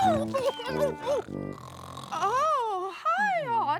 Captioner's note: incoherent shouts